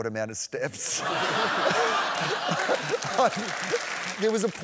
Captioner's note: laughter